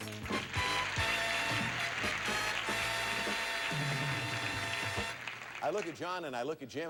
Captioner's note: audience applauding